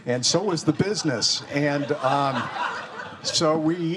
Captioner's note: students laughing